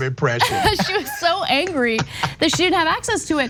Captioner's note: laugh